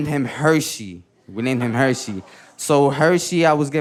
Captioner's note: audience laughing